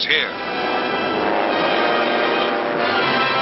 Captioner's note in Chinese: 戰機臨空呼嘯